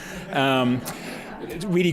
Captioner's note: laughter